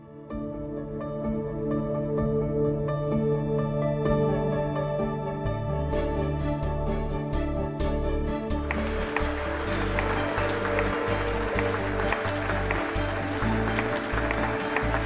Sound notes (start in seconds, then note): 0.2 cheerful music playing; 8.6 applause